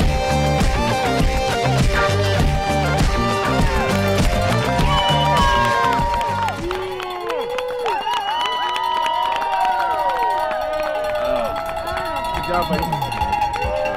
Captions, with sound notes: (cow bell ringing) (people cheering) - Good job, buddy.